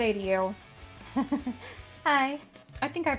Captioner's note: nervously laughs